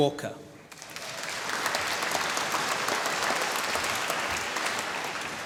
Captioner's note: applause